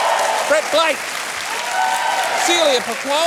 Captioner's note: cheering and applause